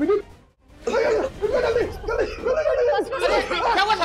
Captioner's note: coughs